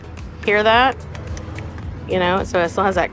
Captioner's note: churro tapping